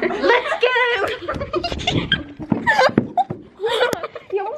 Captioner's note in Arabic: الفتيات يضحكن